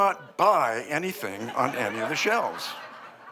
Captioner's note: laughter